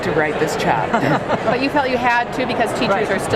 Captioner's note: laughs